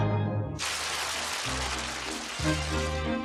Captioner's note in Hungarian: kitörő taps